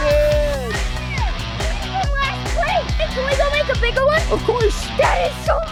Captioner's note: cheers